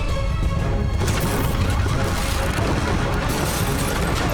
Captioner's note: alarm blaring